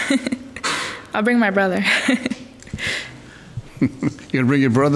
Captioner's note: laughing; laughing